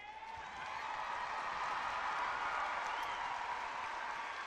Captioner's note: clapping and cheering